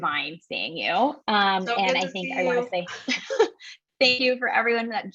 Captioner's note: laugh